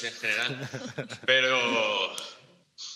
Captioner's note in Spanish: todos ríen